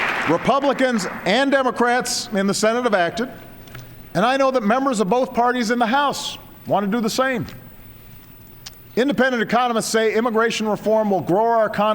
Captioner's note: applause